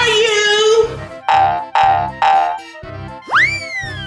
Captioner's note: boinging; slide whistling